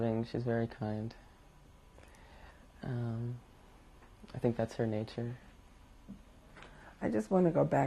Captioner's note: pauses for 3 seconds